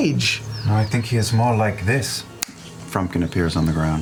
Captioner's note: snaps